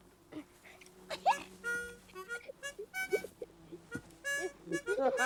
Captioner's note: laughs